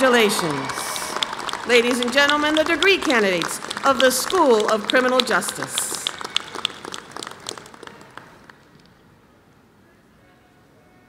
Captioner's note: applause